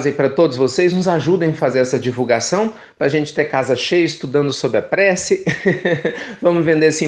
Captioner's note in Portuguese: risos